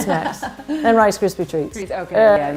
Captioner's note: laughter